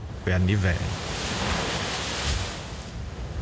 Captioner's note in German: Wellengeräusche